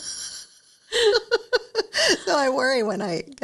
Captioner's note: laughing